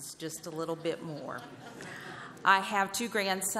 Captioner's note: laughter